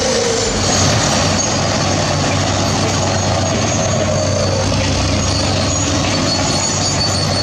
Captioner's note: bulldozer Turbo Sound